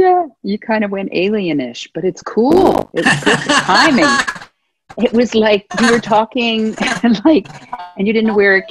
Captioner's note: laughter